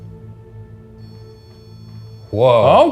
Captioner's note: REM-pod beeping